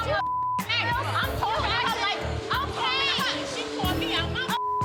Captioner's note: beep; all murmuring